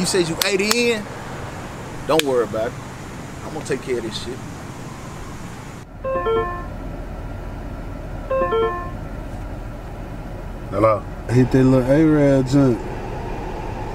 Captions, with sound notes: You say you 80 in? Don't worry about it. I'm gonna take care of this shit. (phone chiming) - Hello? - Hit that little Arab dude.